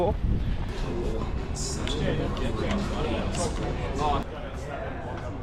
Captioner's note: audience chattering